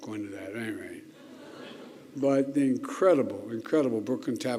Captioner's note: laughter